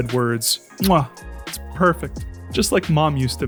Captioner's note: kissing sound